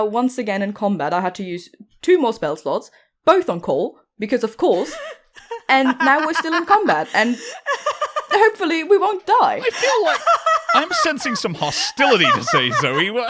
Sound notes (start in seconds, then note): 4.7 laughter; 9.4 loses it